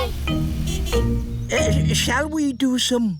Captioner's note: horn honks